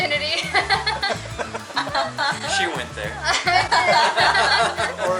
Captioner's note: laughter